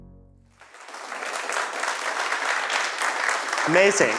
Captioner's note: applause